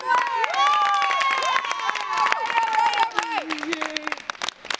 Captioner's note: cheerleaders cheer